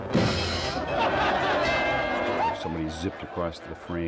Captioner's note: cymbal crashing; bell dinging